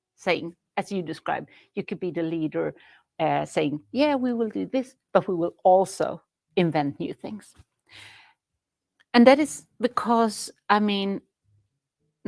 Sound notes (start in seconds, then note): none